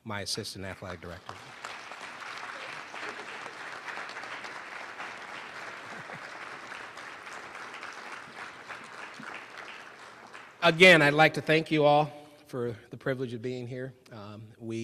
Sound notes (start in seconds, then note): 2.8 applause